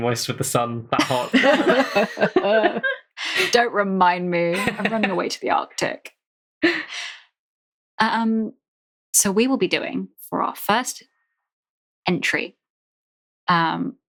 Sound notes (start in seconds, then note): 0.0 laughing; 1.0 sobbing